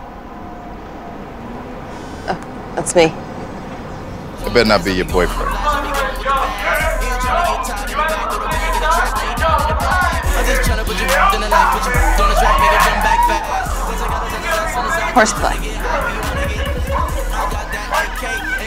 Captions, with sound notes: (buzzing) - Oh, that's me. - That better not be your boyfriend. (yelling and screaming) - Horseplay.